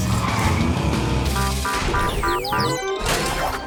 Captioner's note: beeping